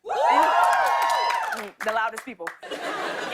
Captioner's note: cheers and applause; laughter